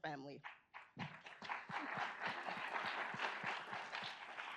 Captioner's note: audience applauds